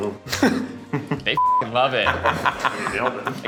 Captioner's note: beeps